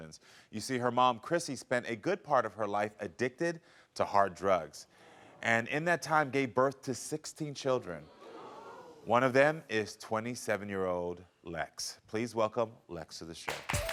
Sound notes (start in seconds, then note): 8.1 audience gasping; 13.4 audience applauding; 13.5 casual upbeat music